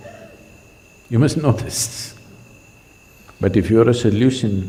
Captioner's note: laughs